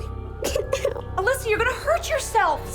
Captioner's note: sobbing